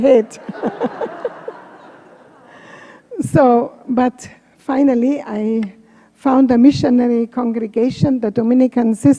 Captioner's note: laughter